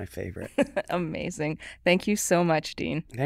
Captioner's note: chuckles